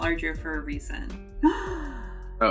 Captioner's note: gasps